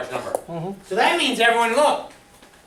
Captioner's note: voiceover